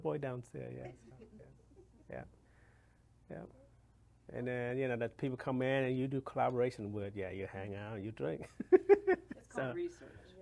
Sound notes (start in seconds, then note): 8.0 laughs